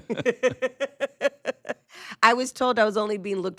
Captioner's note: group laughing